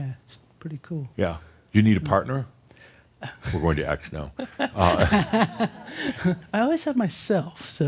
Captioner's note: she chuckles